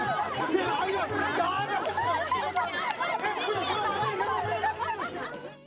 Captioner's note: laughter